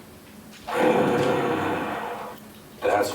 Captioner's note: breathes heavily